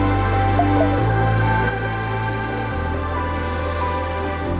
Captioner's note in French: Alerte de batterie des airpods